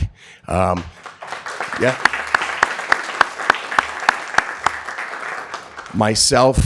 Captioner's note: applause